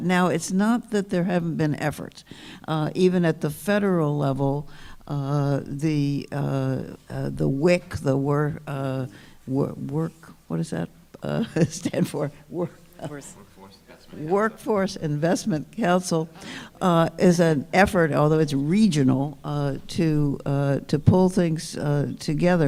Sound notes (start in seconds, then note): 12.2 laughs